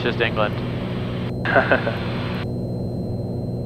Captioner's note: laughing